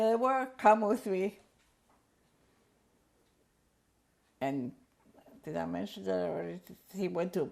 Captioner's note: pauses for 3 seconds